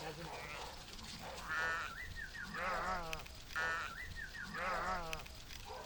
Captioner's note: whistling, barking and shouting; whistling, barking and shouting